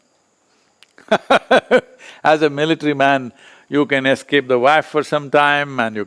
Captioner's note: laughs